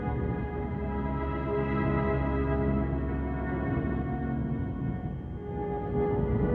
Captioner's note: wind howling